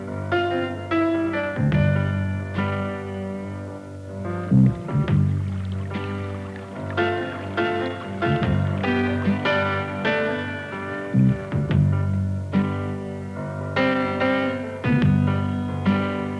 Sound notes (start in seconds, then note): 4.7 water splashing